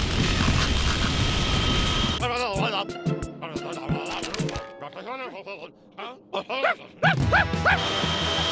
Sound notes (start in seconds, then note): 7.0 barking